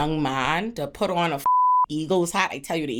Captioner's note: beep